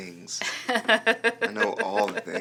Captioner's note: laughing